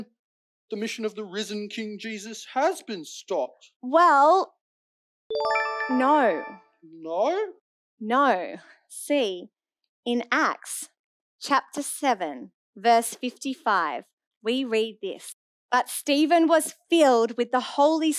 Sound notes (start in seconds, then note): 5.4 ding!